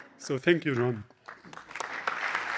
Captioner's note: applause